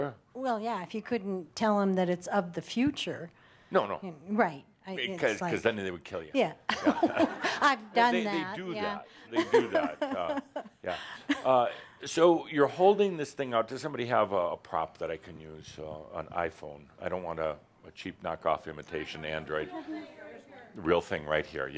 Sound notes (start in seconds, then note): 7.3 some laughter; 9.4 she chuckles